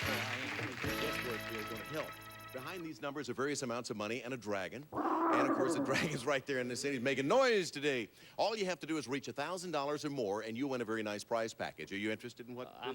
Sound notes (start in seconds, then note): 4.9 dragon roars